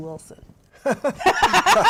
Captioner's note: laughter